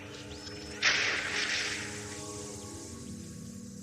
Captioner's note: Static